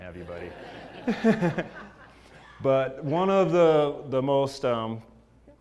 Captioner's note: laugh